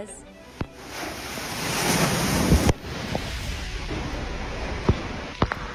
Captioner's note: wind whipping and whistling